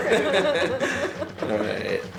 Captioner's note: all laughing